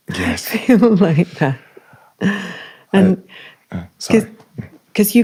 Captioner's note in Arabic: يمسح الحلق